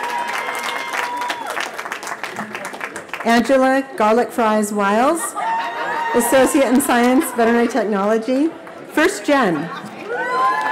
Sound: cheering; laughter

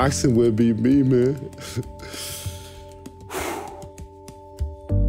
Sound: breathes deeply

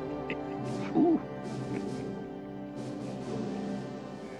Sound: chuckling

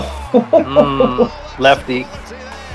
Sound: laughing

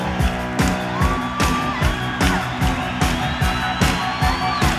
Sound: crowd cheering

